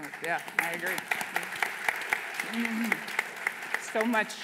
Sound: applause

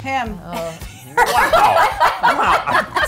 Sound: laughter

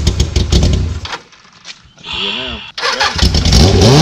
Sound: engine fires up; engine dies; engine fires up and revs

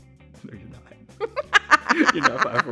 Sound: laughing

